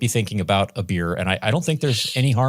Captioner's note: laughs